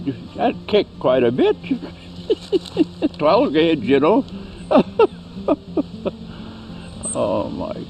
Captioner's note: laughing